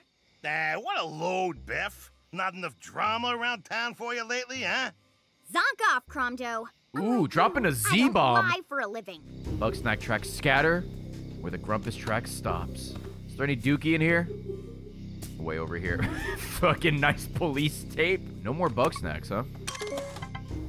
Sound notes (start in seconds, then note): 13.9 laughs